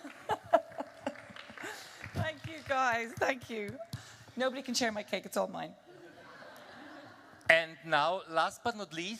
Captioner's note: applause